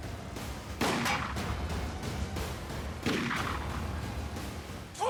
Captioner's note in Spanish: continúa la balacera